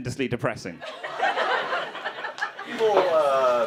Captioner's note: crowd laughing